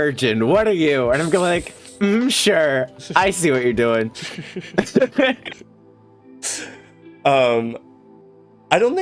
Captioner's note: laughter